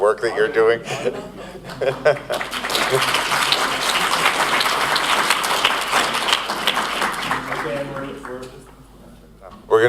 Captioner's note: applause